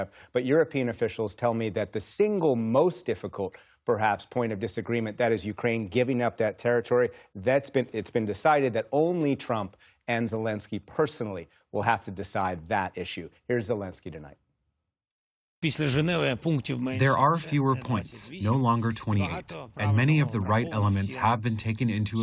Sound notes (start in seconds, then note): 16.7 through translator